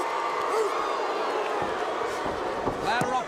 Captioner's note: crowd cheering